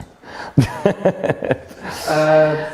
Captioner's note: laughing